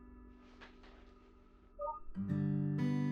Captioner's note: beep